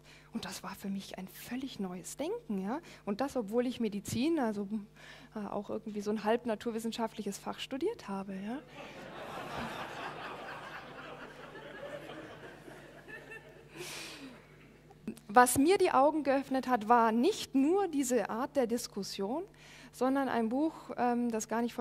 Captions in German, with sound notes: Und das war für mich ein völlig neues Denken. Und das, obwohl ich Medizin, also auch irgendwie so ein halb-naturwissenschaftliches Fach studiert habe. (Lachen im Publikum) Was mir die Augen geöffnet hat war nicht nur diese Art der Diskussion, sondern ein Buch, das gar nicht